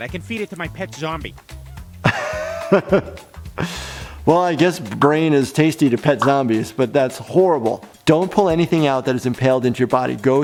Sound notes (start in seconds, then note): 2.0 laughs